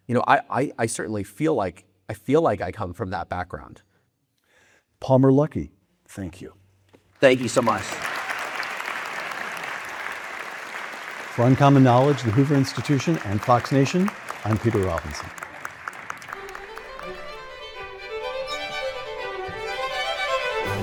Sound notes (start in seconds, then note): 9.3 audience applauding; 15.6 lively classical music